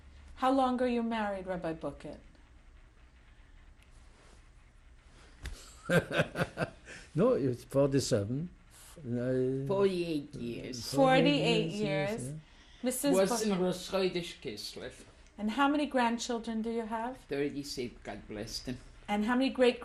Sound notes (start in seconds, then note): 5.8 laughter; 14.2 yiddish speech